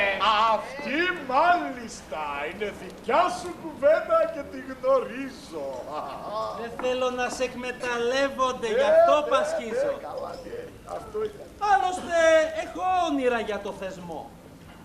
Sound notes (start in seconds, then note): 5.9 γέλιο